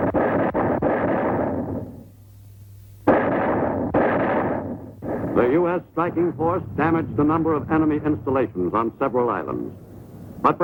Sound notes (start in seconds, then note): 0.6 artillery firing